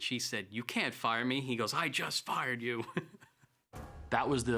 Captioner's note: laugh